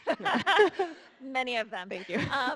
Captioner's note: all laughing